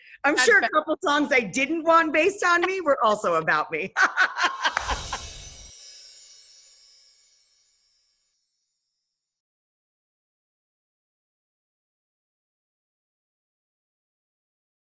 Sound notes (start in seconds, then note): 3.9 laughter; 4.7 chimes